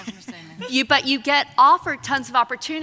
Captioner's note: laughing